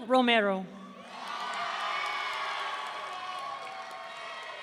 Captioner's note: audience cheering